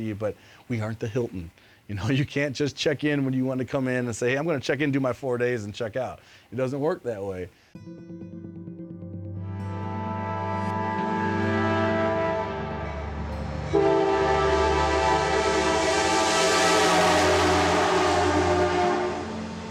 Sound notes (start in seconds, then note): 8.0 slow music; 10.1 train horns